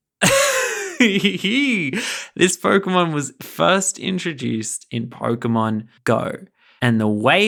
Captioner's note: laughing